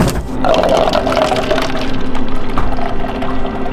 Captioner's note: splashing